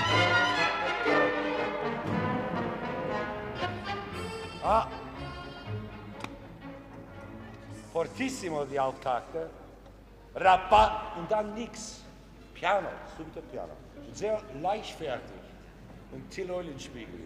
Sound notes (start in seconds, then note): 7.6 orchestra stopping; 8.2 speaking foreign language